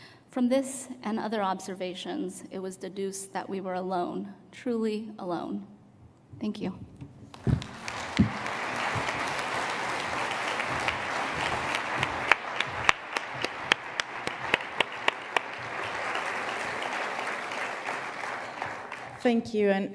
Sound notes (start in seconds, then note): 6.8 applause